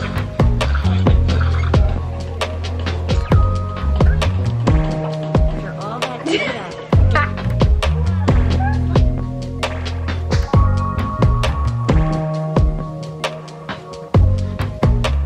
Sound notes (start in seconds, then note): 0.0 upbeat music; 1.8 upbeat music; 6.6 indistinctive chatter and laughter